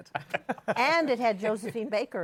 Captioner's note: laughter